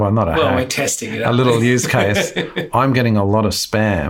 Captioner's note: laughs